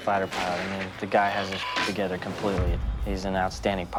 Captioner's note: beep